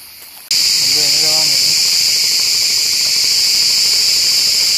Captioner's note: sound of crickets